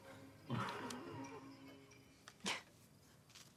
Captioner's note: Ewald laughs